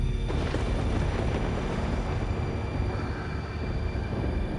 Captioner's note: thunder rumbles